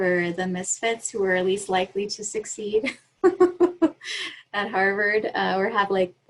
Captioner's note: laughs